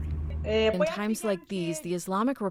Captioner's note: through translator